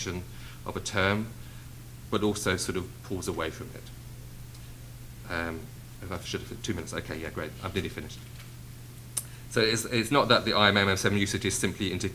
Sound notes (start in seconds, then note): none